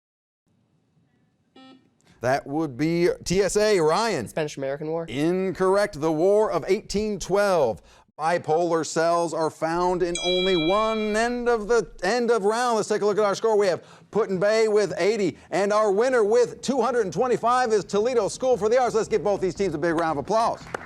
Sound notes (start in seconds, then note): 1.7 beep; 9.8 ding